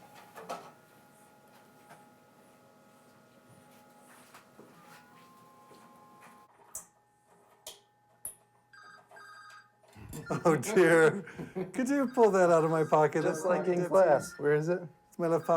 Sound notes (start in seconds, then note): 4.0 feet shuffling; 8.7 phone ringing